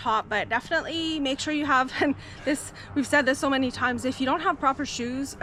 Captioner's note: laughs